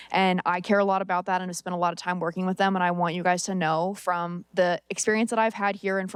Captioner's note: none